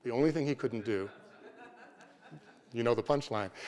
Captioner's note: laughter